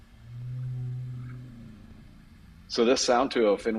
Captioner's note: whale calling